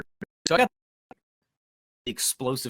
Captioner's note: audio drops out